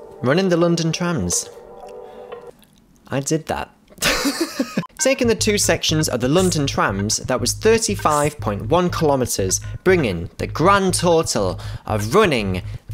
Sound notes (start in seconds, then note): 4.0 laughs